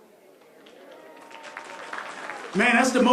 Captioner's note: applause